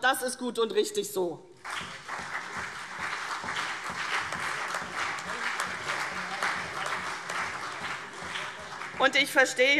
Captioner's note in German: Beifall CDU und BÜNDNIS 90/DIE GRÜNEN